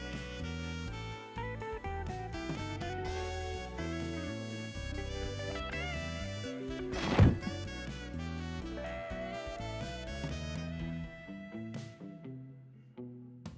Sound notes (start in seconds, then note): 7.0 slams